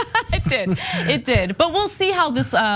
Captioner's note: laugh